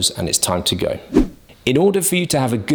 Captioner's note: air whooshes